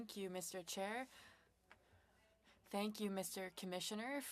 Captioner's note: speaking French